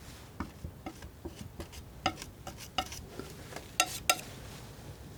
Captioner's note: scratching